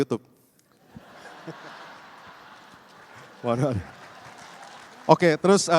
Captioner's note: laughter